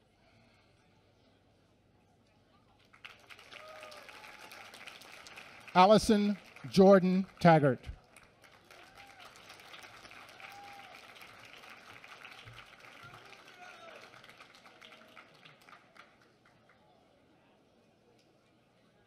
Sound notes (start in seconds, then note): 7.6 applause